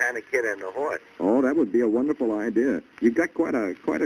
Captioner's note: on phone